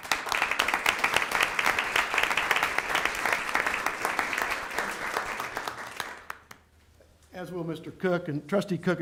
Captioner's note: applause